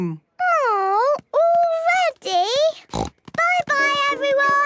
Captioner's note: snort